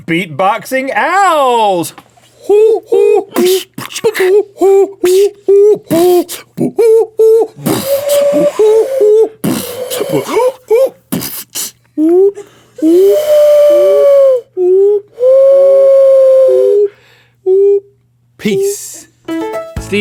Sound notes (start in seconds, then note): 2.3 both making owl sounds; 3.7 both beat boxing; 7.8 bird call; 19.2 outro music